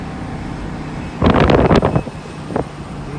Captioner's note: sound of loud rushing air